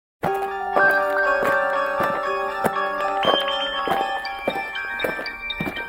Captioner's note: alien footsteps; eerie music